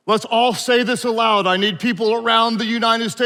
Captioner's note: none